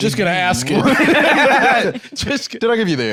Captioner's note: both laugh